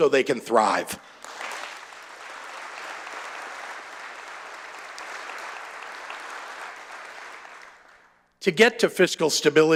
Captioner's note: applause